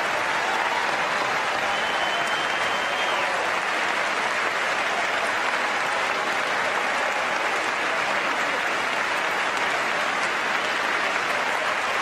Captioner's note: applause